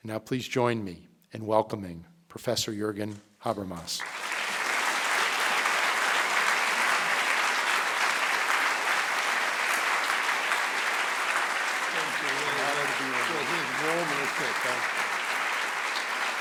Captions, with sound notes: Now, please join me in welcoming Professor Jurgen Habermas. (audience applauding) (both men talking) - Thank you.